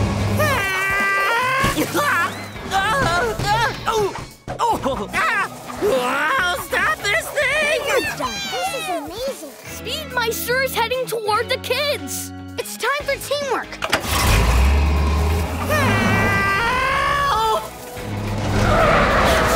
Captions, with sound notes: [screaming] [yelling] Stop this thing! This is amazing! Speedmeister is heading toward the kids! It's time for teamwork. Help!